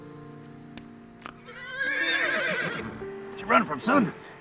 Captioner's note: horse whinnies